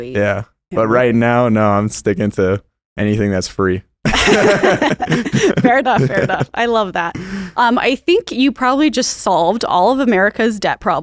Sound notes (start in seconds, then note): 4.0 both laugh